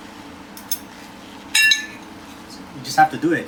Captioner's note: fork and plate clicking